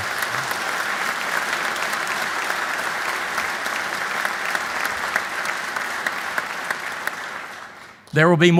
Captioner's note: applause